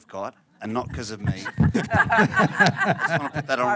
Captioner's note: laughter